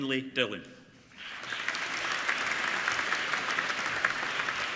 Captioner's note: applauding